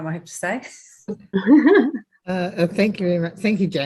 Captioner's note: laughter